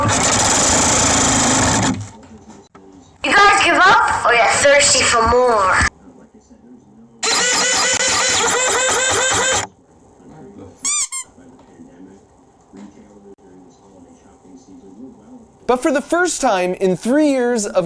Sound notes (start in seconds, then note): 0.0 machine blasting sound; 7.2 machine spray noise; 10.8 squeaky toy sound effect; 12.2 television ambience